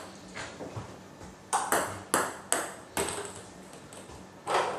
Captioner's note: balls ping pong hitting continues